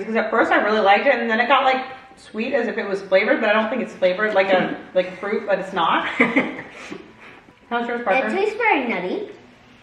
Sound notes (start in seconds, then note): 6.1 laughs